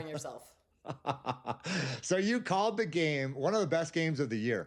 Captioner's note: laughs